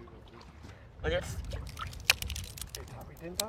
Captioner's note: crackling